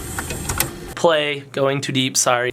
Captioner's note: mechanical clicking